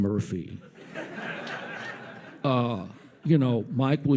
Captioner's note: audience laughs